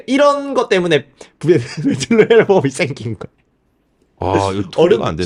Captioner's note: laughs